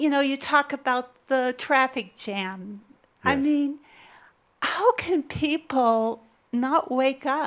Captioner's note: some chuckles